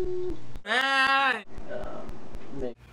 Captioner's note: mmmm; ahhhh!